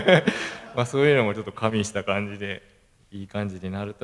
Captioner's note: laugh